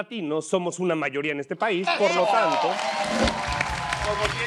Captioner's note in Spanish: Aplausos